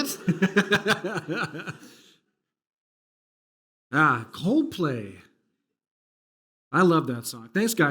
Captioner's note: laughs